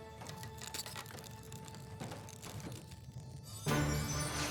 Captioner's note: crackling